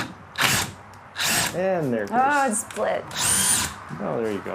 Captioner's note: drill whirring